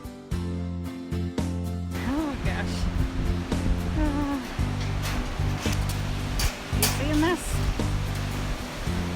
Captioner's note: nervously